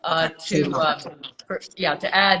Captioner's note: speaking distorted by recording